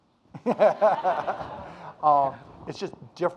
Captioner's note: audience laughing